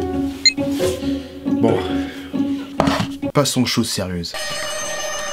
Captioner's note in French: soupir